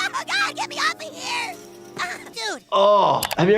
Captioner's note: Kyle grunts; fence rattles; groans